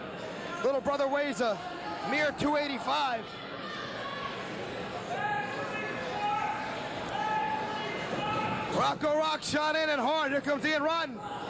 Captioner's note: cheering